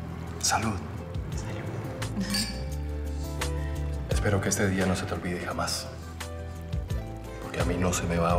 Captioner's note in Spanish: Chocan las copas